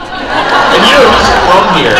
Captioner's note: crowd laughs